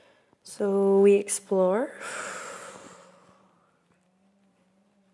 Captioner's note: exhale